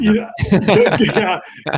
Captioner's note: all laugh